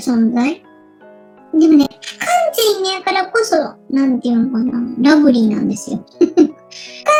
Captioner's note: laughs